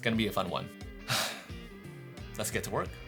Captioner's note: sighs